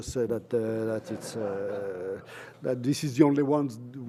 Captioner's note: laughter